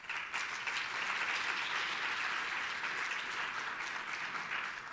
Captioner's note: audience applauding